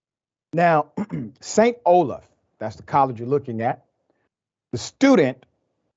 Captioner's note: cough